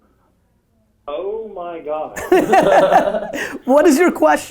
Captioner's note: group laughter